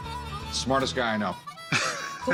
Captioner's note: laughs